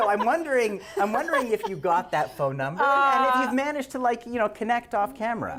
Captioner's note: laughter